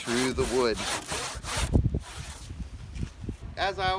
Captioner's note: sawing noise